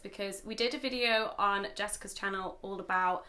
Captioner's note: none